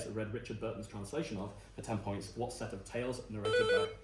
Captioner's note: buzz